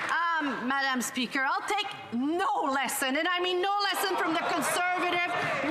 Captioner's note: some Applause